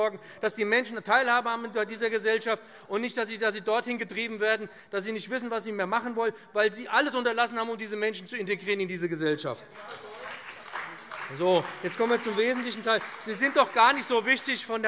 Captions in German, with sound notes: damit die Menschen an dieser Gesellschaft teilhaben. Wir wollen nicht, dass sie dorthin getrieben werden, dass sie nicht mehr wissen, was sie machen sollen, weil Sie alles unterlassen haben, um diese Menschen in die Gesellschaft zu integrieren. [Beifall BÜNDNIS 90/DIE GRÜNEN, CDU und vereinzelt DIE LINKE]